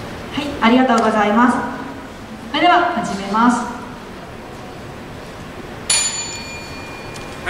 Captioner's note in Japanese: 開始のベルの音